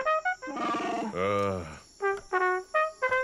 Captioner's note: growls